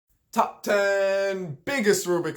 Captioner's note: in a sarcastic and unknowledgeable voice throughout